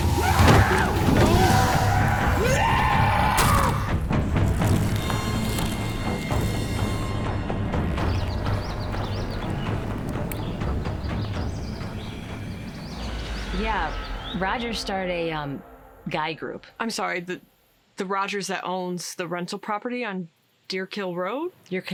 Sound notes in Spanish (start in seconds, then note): 0.3 Rogers gritando; 3.6 hachazos